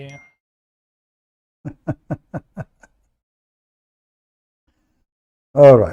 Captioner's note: Ketawa